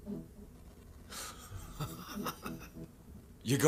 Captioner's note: man laughing